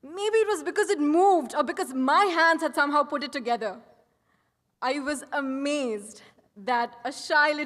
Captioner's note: none